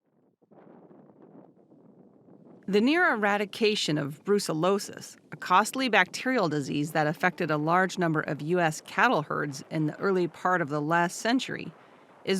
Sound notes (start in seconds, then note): 0.6 wind whooshing